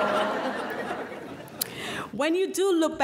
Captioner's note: laughing